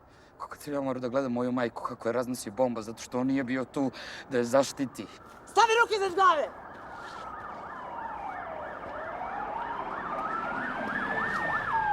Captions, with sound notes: Like when I watched my mother being blown up by a bomb... ...because he was not there to protect her. Put the hands above your head! (sirens wailing)